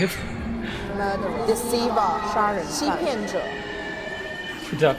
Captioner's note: haunting voices